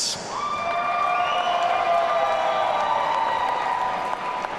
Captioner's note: audience cheering